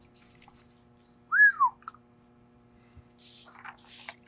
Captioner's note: whistles; pages rustling